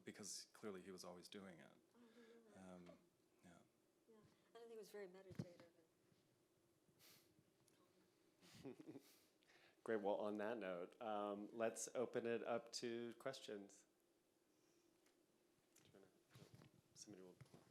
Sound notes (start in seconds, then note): 8.5 chuckles